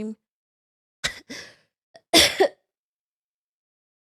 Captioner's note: coughs